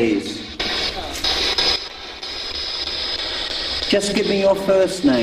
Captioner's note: static buzzing